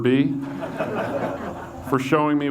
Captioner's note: audience laughs